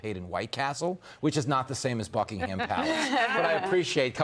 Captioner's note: laughter